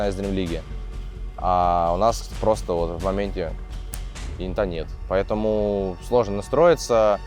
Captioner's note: snap